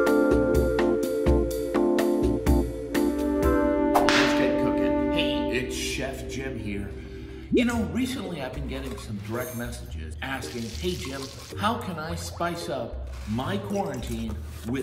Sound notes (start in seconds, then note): 4.0 whip cracking